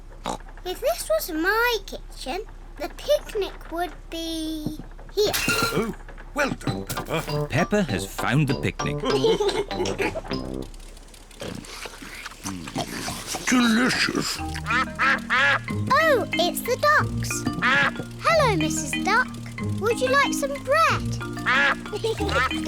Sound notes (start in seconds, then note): 0.2 oinks; 9.0 all laugh; 14.5 ducks quack; 20.4 ducks quack